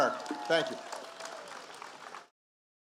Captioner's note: applause